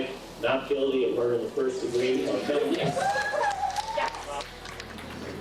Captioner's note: people cheering